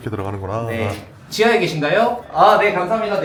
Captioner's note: on the phone